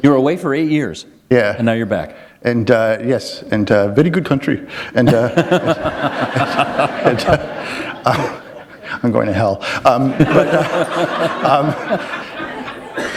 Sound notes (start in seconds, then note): 6.8 laughter